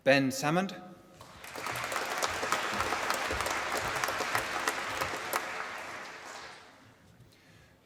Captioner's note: applause